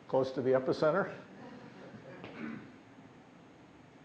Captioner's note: laughter